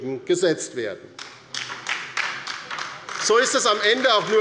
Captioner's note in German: Beifall bei der LINKEN